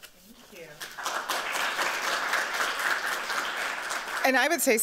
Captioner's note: applause